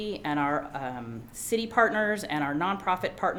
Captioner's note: none